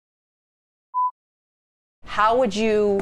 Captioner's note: screen beeping